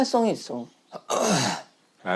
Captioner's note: clearing his throat